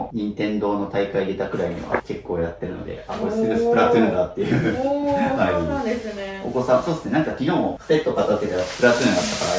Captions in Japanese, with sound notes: [笑い] おお、そうなんですね。 お子さん、そうっすね。なんか昨日もセットでスプラトゥーンだったからやってんだなと思ったんですけど、親子で遊ぶやつたんで。